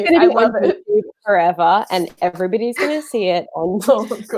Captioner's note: murmurs